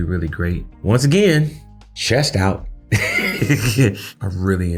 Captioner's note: laughing